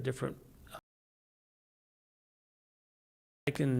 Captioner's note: audio cut out